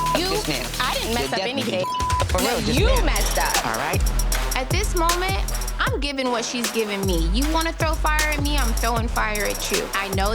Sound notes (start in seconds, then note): 0.0 beep